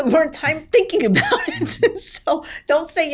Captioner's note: laughs